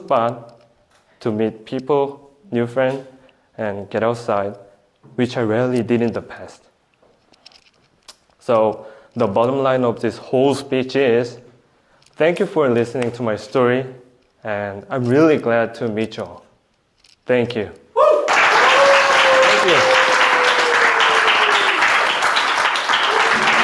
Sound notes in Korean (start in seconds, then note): 18.2 박수 소리